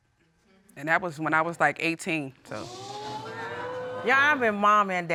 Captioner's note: audience gasps